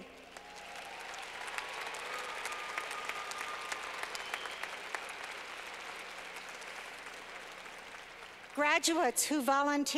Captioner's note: clapping